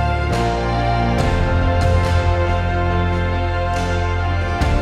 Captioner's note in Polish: Aplauz